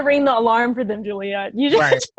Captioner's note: chuckles; laughs